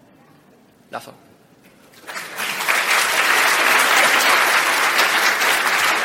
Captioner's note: applause